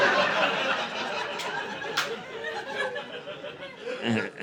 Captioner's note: laughter